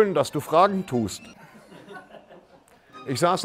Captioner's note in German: Leises Gelächter